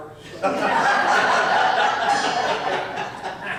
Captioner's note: audience laughs